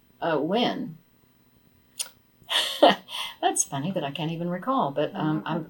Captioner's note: laughs